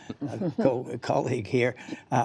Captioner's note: laughter